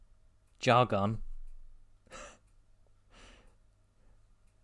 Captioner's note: sensible chuckle